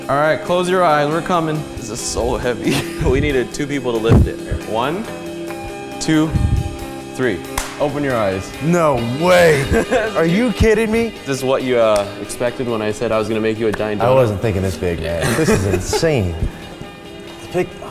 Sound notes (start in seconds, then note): 7.5 clapping; 8.6 laughing; 15.3 laughing